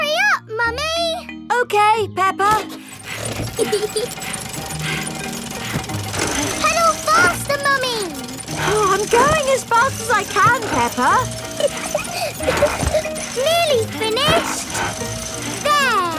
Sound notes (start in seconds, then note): 3.3 mummy pig panting; 3.5 peppa laughing; 12.0 peppa laughing